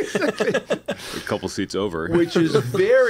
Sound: laughter

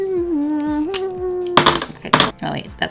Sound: hums a lord of the rings theme knockoff; crash, smack

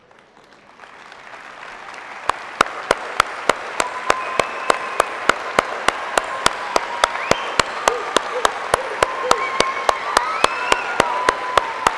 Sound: cheering

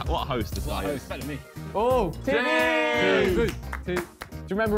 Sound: men chatting

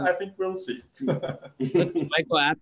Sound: laughs

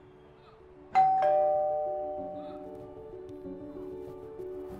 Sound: bell rings; soft melodic music

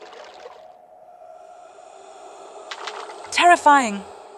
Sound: sound of something breathing like a monster

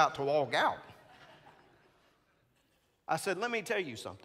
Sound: congregants laughing

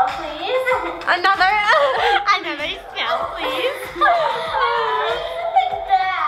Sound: laughs

